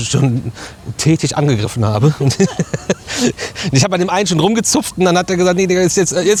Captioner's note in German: gelächter